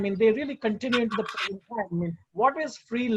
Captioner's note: speaks faintly